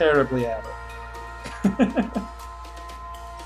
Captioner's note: laughs